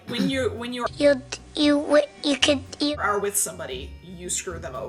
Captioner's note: stuttering